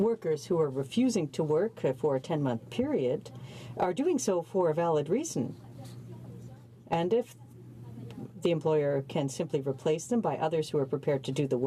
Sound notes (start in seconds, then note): none